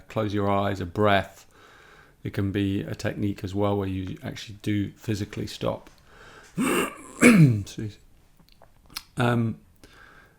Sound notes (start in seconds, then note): 6.6 clears his throat